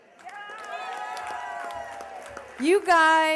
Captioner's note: cheers and applause